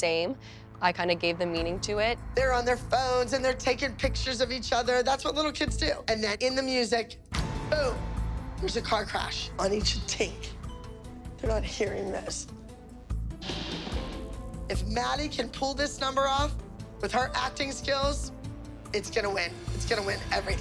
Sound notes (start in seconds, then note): 13.4 loud crash